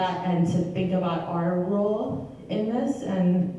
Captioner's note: none